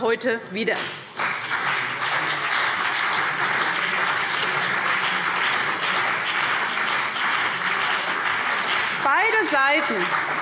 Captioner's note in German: Beifall CDU und BÜNDNIS 90/DIE GRÜNEN